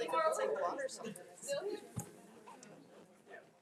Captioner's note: speaks faintly